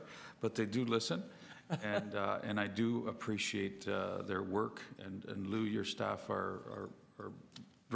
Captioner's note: laughter